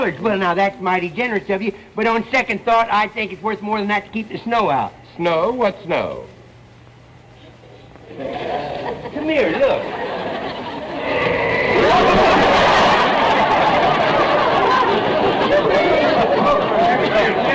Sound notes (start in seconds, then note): 7.9 audience laughter; 10.9 whoosh; 11.9 audience laughter